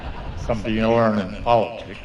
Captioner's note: laughter